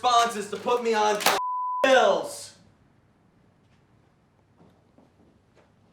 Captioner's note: papers slamming on counter